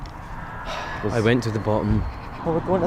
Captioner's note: sighs